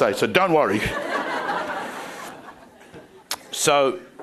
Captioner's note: crowd laughing